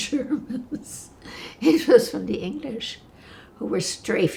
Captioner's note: laughing